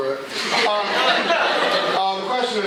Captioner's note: laughter